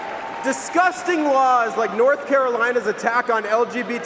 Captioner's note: cheering and applause